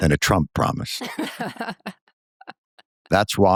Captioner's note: laughter